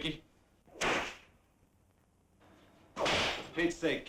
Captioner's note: whip cracking